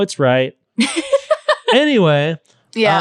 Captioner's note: laughing